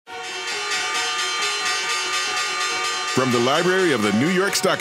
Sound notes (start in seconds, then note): 0.1 bell ringing; 0.1 upbeat music